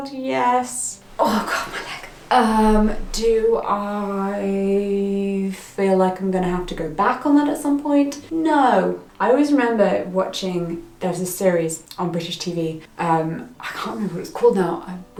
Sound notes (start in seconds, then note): none